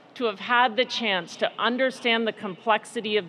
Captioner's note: none